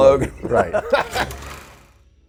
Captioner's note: laughter